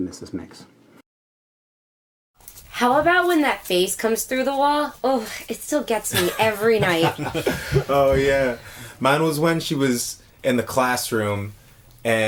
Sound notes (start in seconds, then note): 6.1 guys laughing